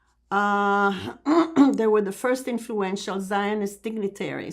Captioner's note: clears throat